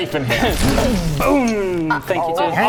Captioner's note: boof!; boom!